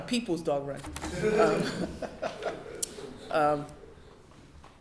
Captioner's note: laughing